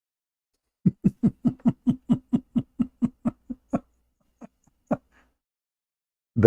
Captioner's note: Ketawa